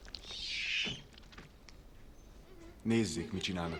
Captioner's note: shrieks